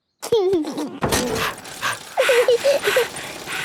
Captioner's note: chuckles; daddy pig panting; mummy pig panting; peppa chuckles